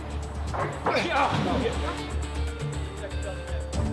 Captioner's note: grunting